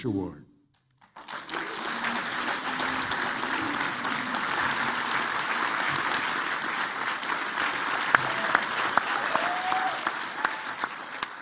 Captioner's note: applause